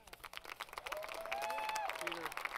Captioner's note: applause